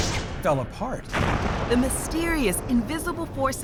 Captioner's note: explosion